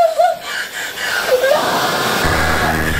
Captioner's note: screaming